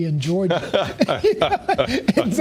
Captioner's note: laughter